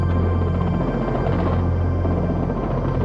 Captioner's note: helicopter whopping